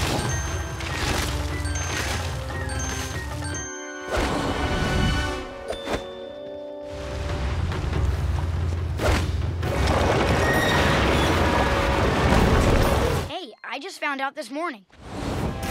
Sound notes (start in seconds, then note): none